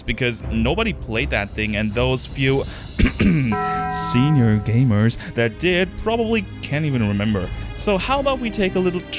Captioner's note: ahem